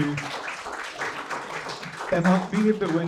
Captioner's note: applause